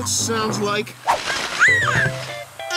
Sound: squeaking

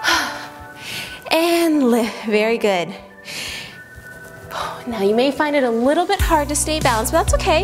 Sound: sighs

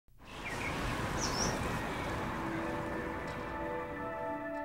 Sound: birds chirping

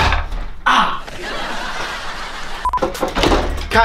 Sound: laughing Track

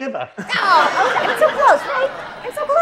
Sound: audience laughs

